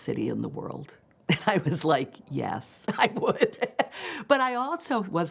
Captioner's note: laughing